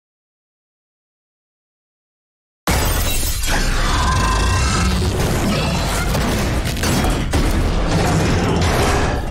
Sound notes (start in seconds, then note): 2.7 shattering; 3.0 screeching; 6.0 banging